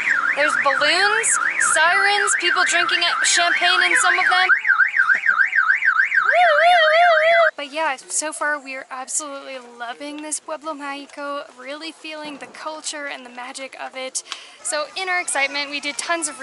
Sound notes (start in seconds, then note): 6.2 sirens and mimicking the sirens